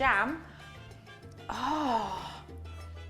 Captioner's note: gasps